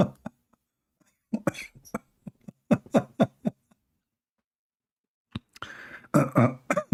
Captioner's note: Ketawa